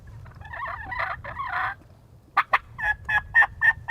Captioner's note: turkey call